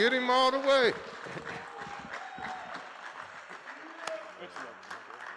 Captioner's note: applause